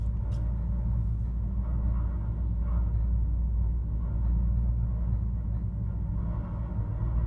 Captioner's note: machine rattling faintly continues